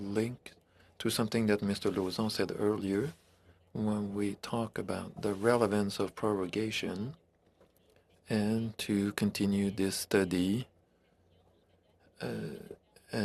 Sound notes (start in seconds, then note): 3.3 speaking French